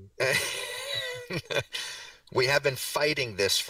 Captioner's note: laughter